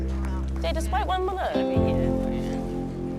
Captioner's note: light chatter